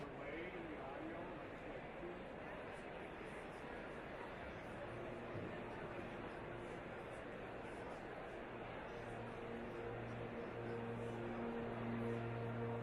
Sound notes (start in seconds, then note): 3.6 audience chattering; 10.5 horn music